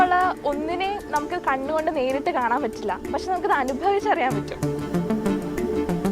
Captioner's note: speaking foreign language